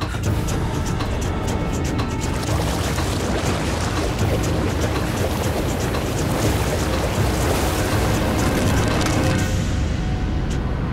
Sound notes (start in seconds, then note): none